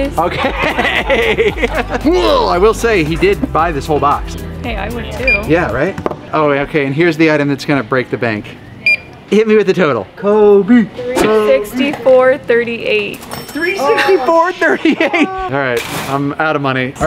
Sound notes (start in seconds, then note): 0.2 laughing; 8.8 cash register beeping; 13.1 cash register dinging